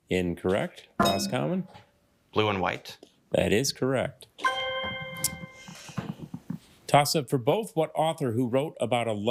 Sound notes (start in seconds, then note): 1.0 bell dings; 4.4 triumphant chime